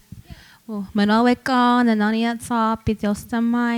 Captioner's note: speaking Comanche